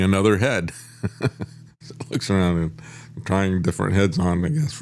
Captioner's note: laughs